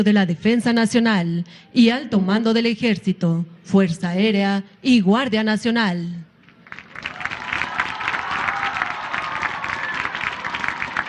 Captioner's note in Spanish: aplausos